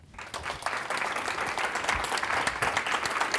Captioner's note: applause